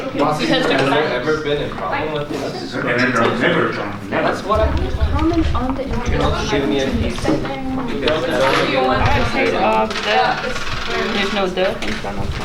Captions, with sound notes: Skal jeg tage et stykke til dig? Jeg tager lige et stykke til Melissa. [chatter]